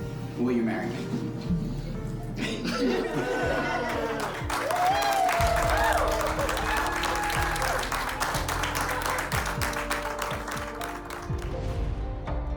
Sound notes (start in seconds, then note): 2.3 laughing; 3.3 cheers and applause